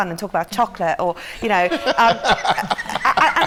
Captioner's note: laughter